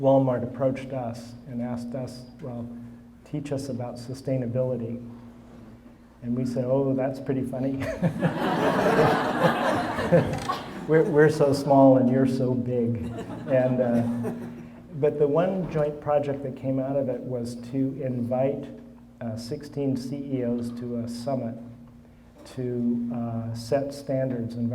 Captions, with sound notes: Walmart approached us and asked us, "Well, teach us about sustainability." And we said, "Oh, that's pretty funny. (all laughing) "We're so small and you're so big." And-- but the one joint project that came out of it was to invite 16 CEOs to a summit to set standards--